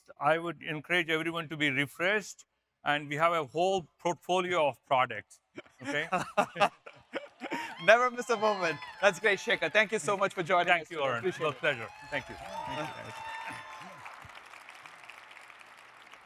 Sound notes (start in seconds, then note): 5.6 laughs; 6.1 audience cheers; 13.0 audience applauding